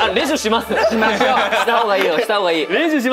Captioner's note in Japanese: 笑い